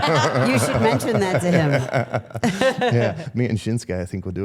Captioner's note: laughing; people laughing